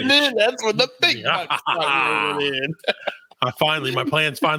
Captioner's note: laughing